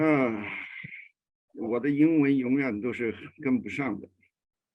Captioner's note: speaks in a foreign language